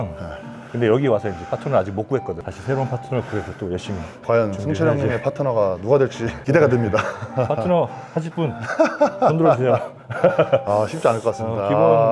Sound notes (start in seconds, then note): 8.6 laughter